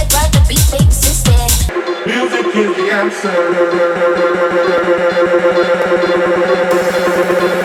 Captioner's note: echoes